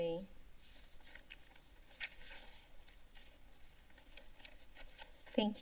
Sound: paper rustling sound

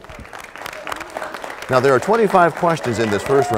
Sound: applause

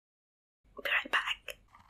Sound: whispers

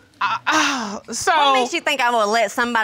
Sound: sighs

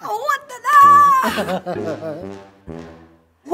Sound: laughing

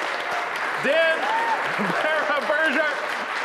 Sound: audience applauding

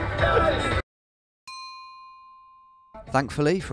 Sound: pinging

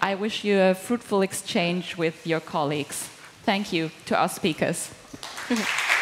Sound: applause

